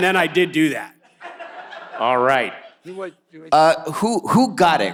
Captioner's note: audience laughs